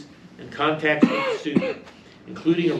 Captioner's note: male audience member coughs